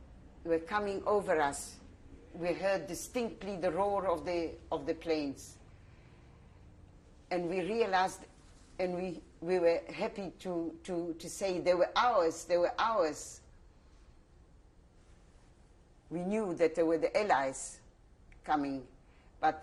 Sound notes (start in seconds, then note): 13.1 pauses for 3 seconds